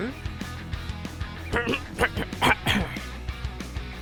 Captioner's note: clears throat